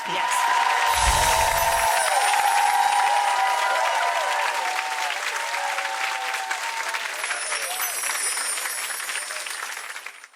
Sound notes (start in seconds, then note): 1.2 audience cheering